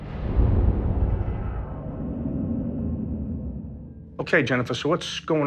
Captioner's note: ominous whoosh